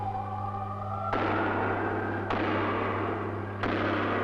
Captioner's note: hammering